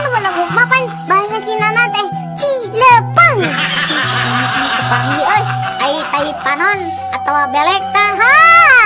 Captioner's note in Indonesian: tertawa